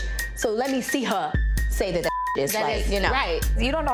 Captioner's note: beep